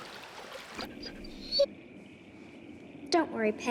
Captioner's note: Patch whining